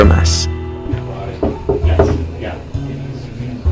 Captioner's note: knocking